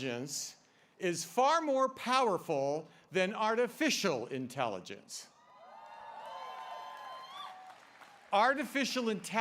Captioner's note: applause